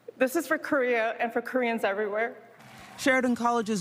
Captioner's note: applause